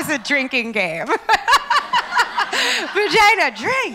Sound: laughs

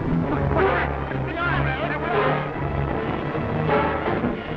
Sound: panicked yelling; suspenseful orchestral music

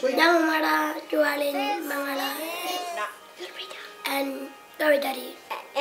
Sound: foreign Language

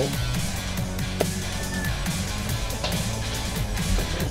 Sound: excited screaming from inside

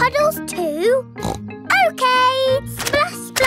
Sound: snorts

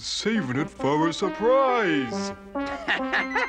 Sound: laughs

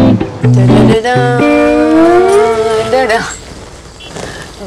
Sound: humming a tune

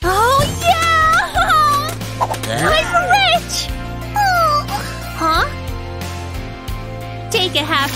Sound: making happy sounds

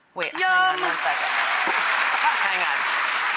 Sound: audience clapping; laughing

